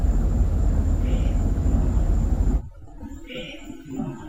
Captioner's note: mysterious voice in background